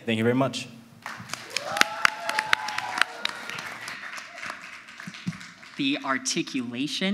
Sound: audience applauds; audience yells

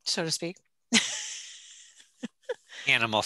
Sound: laughing

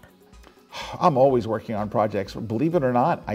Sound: sighs

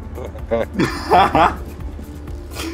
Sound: multiple people laugh

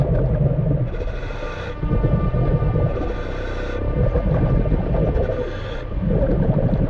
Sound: water bubbling; scuba breathing

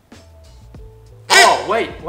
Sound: squeaks

